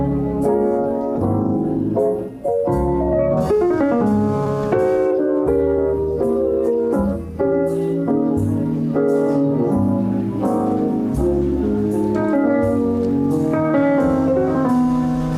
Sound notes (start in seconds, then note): none